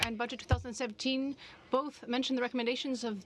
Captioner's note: speaking in french